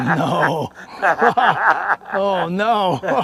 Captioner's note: evil laughter; laughter